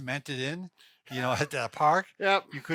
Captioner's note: chuckles